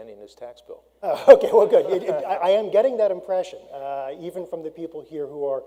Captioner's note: laughs